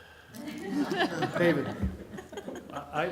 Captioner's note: laughter